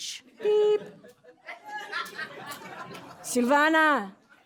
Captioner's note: laughter